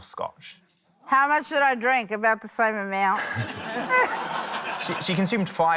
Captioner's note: laughter